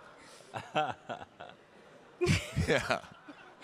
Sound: audience laughing; laughing

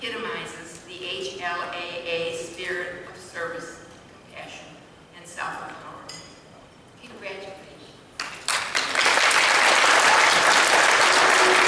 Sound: applause

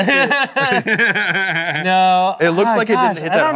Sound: laughing

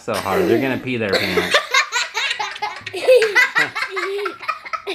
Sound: children laughing

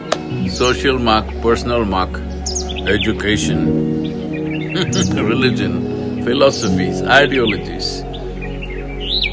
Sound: laughs

